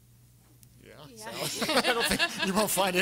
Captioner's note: everyone laughing